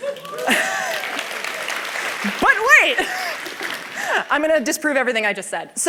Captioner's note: laughter; cheers